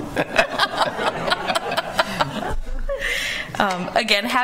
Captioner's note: laughter